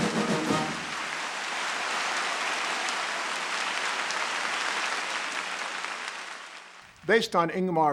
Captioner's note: applause